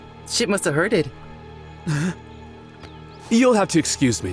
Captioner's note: SPENCER groans